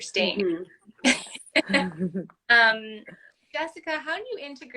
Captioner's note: laughter